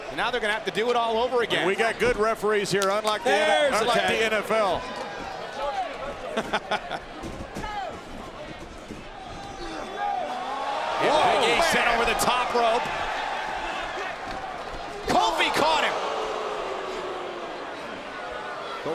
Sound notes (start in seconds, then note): 6.7 King laughs; 17.3 crowd boos